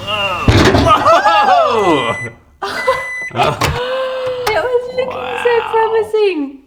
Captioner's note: bang